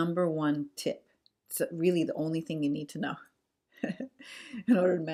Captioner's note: laughs